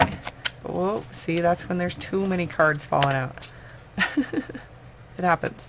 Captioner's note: laughing